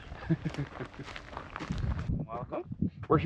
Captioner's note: footsteps crunching; chuckles